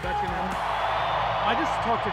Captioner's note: crowd cheering